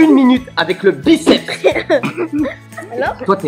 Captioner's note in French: rires